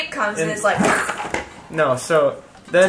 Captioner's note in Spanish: sonido de choque